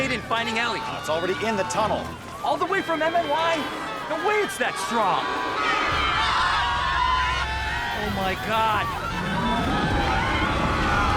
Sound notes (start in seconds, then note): 8.8 wind howling